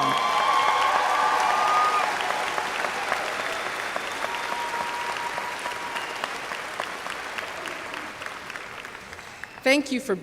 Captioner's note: cheers/applause